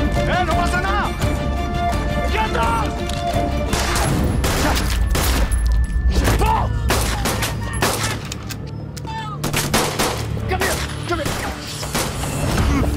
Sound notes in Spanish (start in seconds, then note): 4.4 Disparo; 9.4 Disparos